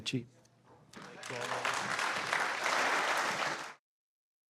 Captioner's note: applause